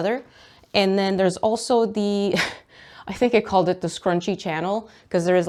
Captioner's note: laughs